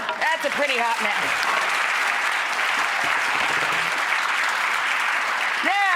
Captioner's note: audience applauding